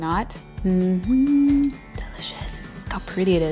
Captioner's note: humming